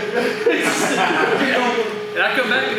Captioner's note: laughs loudly